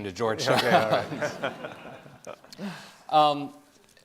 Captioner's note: Jeff laughing